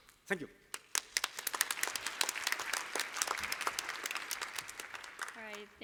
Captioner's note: applause